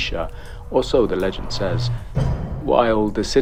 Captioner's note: door creaks and slams